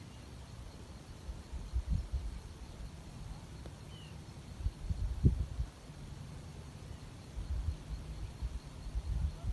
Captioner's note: birdsong in background